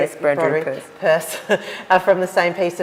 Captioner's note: laughs